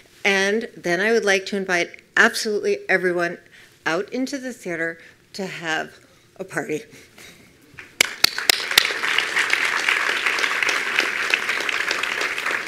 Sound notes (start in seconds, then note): 7.8 attendees applauding